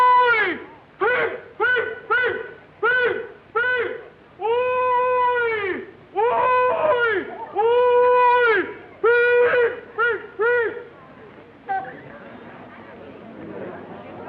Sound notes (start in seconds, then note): 3.6 hollering; 10.6 chatter